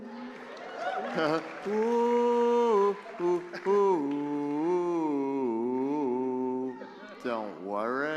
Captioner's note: applause